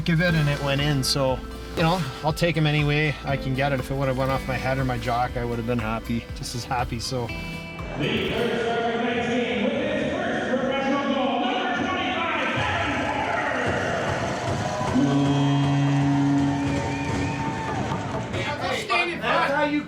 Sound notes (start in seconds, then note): 12.9 crowd cheering; 14.8 horn blowing; 18.1 upbeat music